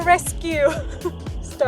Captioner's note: laughs